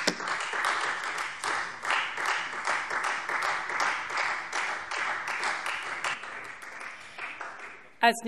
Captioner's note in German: Beifall Freie Demokraten